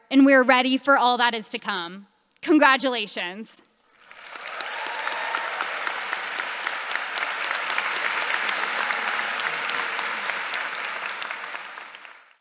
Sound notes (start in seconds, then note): 3.9 audience applauding